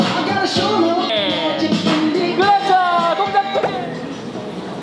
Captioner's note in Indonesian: Tertawa